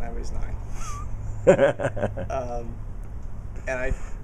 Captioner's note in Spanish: risas